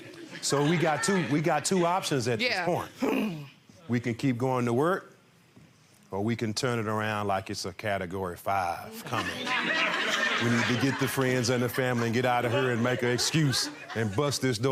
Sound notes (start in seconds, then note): 3.0 mimics groan; 9.1 audience laughing